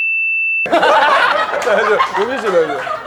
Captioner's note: laughing